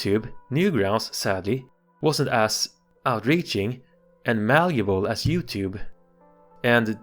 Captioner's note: microphone thump